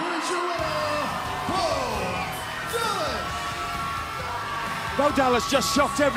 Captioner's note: bell ringing